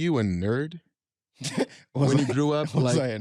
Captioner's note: laughs